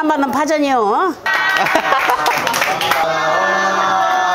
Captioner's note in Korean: 환호